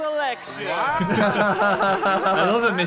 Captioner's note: both laughing